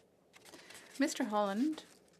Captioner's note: speaking French